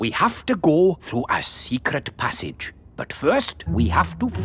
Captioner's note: none